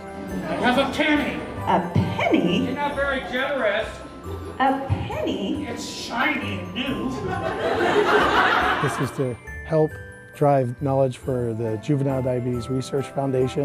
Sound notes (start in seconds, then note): 7.1 laughs